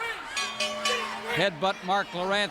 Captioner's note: bell rings